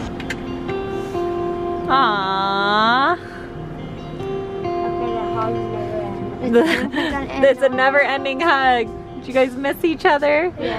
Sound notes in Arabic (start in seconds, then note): 0.2 موسيقى لطيفة; 6.4 يضحك